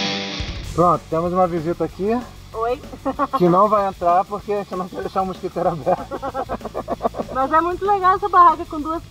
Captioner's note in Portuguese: risada